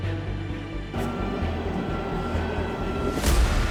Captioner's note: machine beeping; machine thrumming; dramatic music